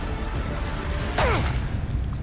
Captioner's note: grunt